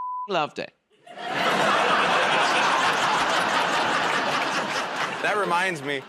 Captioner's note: laughter